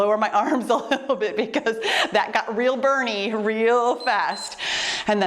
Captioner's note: timer beeps